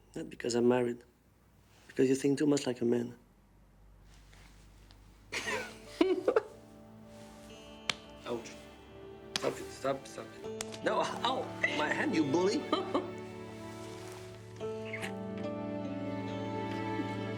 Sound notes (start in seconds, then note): 5.3 Marie laughs; 7.8 hand thwacks; 10.5 hand thwacking; 12.5 Marie laughs; 13.8 warm music